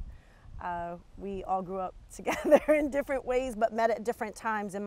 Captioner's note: chuckles